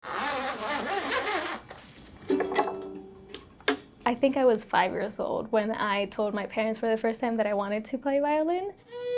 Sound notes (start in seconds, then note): 0.0 unzipping; 2.3 strums